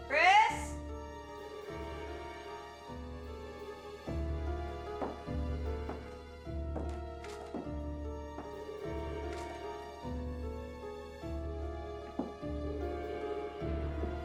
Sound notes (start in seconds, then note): 0.0 suspenseful orchestral music; 4.1 boots tapping